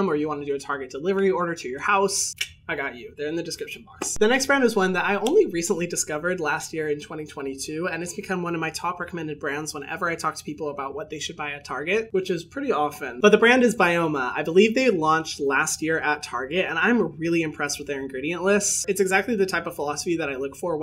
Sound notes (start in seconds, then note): 2.4 clicking tongue